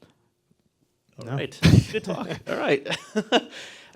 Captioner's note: laughs